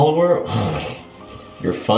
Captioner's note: scoffs